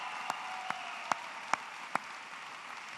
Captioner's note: applause